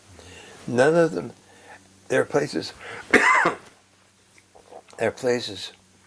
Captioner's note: cough